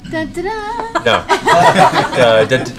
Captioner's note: laughter